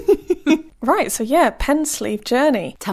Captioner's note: laughing